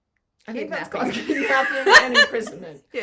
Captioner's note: laughing